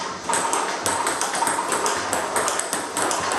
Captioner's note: ball ping pong hitting